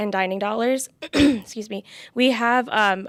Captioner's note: clears throat